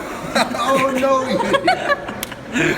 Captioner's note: laughs